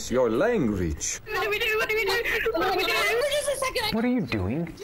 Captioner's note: crying